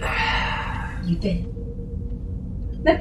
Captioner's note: sigh